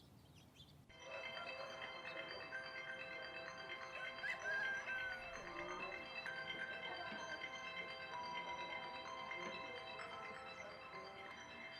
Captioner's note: phone ringing